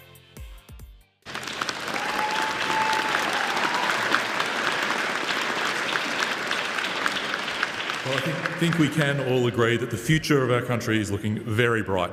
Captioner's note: applause